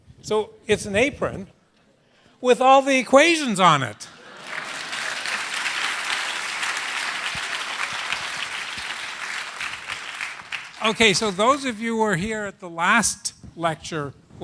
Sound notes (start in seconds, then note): 4.0 applause